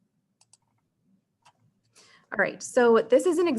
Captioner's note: mouse clicking